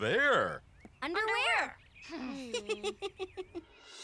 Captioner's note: announcer laughs